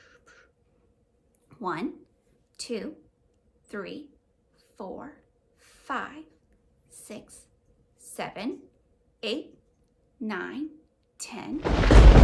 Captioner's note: thunder sound